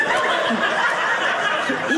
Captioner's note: audience laughing